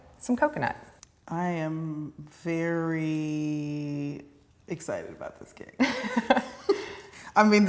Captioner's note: laughs